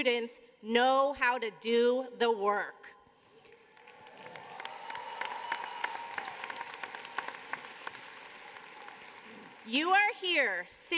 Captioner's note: cheers and applause